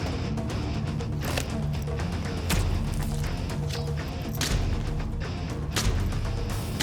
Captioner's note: blade impacts